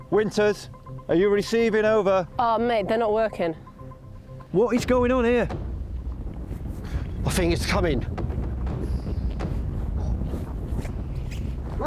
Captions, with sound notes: - Winters, are you receiving? Over. - Oh mate, they're not working. - What is going on here? (ground rumbling) - I think it's coming.